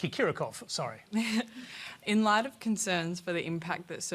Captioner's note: chuckles